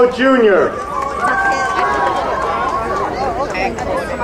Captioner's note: crowd cheering